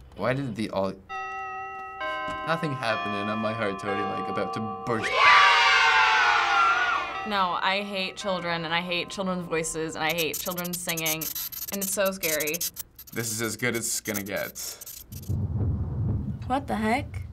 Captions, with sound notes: - Why did aud-- - (in game: clock chimes) Nothing happened and now my heart's totally about to burst. (in game: children cheer) No, I hate children and I hate children's voices and I hate children singing. And it's so scary. This is as good as it's gonna get. - (in game: thunder rumbles) - What the heck?